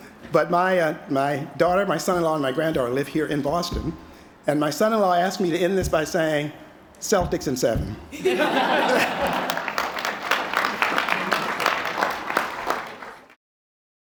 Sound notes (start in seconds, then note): 8.1 laughter; 8.9 applause